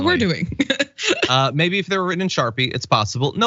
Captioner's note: laugh